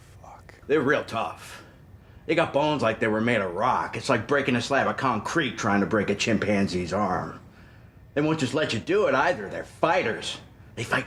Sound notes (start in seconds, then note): none